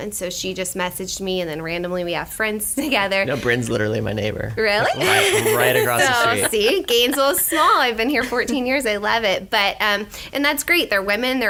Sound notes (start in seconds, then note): 4.7 laughter